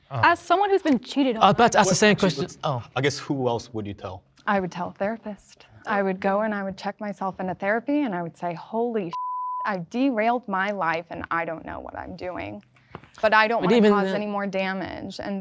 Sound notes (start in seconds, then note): 9.1 beep